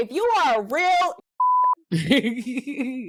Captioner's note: beep